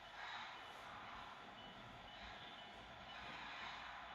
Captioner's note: prime mover and bell in the distance